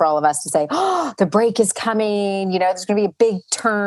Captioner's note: gasps